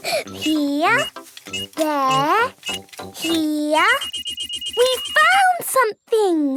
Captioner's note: giggling; beeping